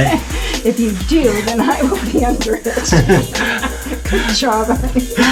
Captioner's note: laughing